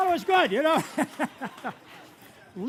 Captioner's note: laughter